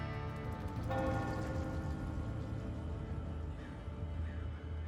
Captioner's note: bell tolling